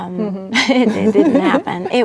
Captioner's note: laughing